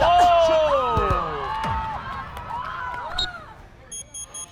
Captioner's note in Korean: 호루라기 소리